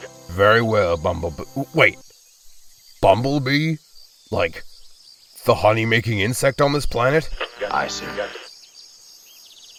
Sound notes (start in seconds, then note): 7.9 radio